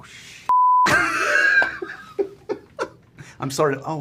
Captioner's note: laughs